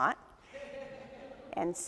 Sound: audience chuckles

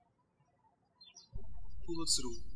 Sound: birds chirping

